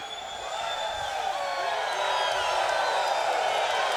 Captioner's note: crowd cheers